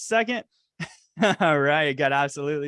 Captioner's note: laughs